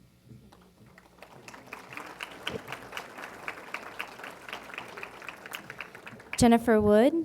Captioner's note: applause